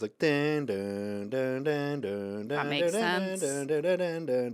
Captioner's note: Anthony hums; Anthony continues to hum